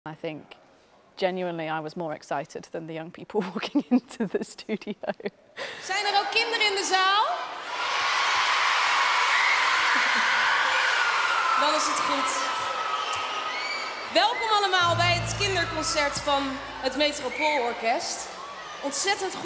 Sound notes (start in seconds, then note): 7.7 kids cheering